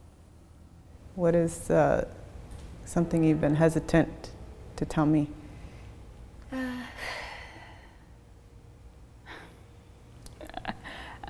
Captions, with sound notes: - What is something you've been hesitant to tell me? (sighs)